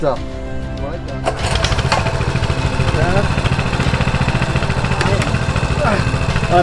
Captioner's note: mid tempo music; motorcycle running